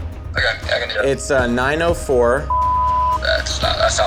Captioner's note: beep